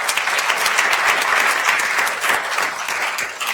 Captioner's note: attendees applauding